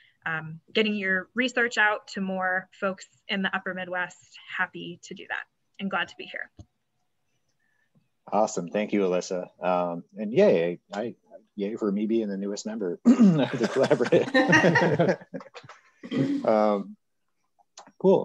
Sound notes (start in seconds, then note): 13.2 laughter drowns out conversation; 13.2 laughs